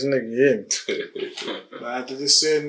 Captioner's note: Chauncey laughing